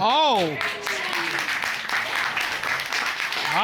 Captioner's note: applause